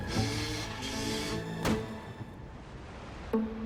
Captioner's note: footsteps